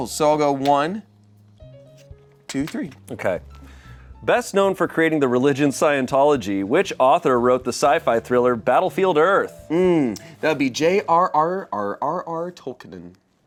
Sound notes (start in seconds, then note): none